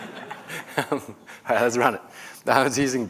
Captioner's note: laughter